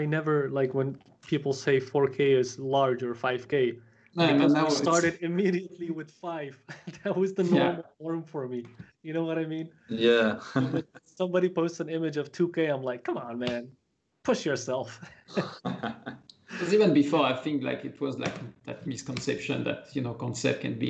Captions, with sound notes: When people say 4K is larger, 5K, I started immediately with 5. That was the normal one for me. You know what I mean? -Yes. -Somebody posted an image of 2K, I'm like, "Come on, man. Push yourself." [laughter] -Even before, I think it was that misconception that concept can be